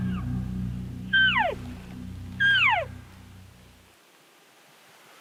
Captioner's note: calling sounds